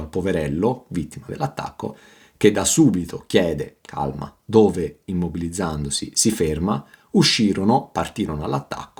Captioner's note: calmly